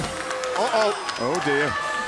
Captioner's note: cheers & applause